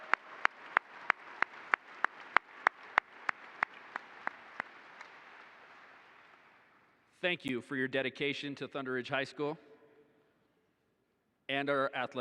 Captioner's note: applause